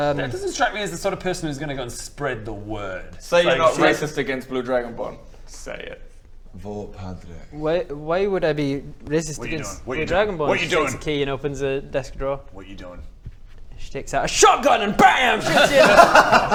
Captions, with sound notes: That doesn't strike me as the sort of person who's gonna go and spread the word Say you're not racist against blue dragonborn say it Vote Padraic Why...why would I be racist against - blue dragonborns? - What you doing? What you doing? WHAT YOU DOING? She takes a key and opens a desk drawer What you doing? She takes out a shotgun and *BAM!* shoots ya